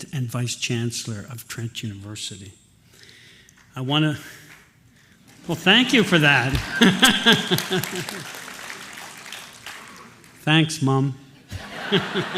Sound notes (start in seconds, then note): 5.8 laughs; 8.0 applause; 11.4 laughter